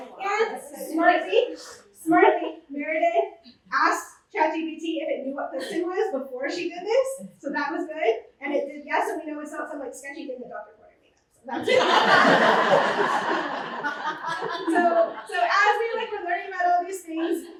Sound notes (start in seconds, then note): 11.6 laughter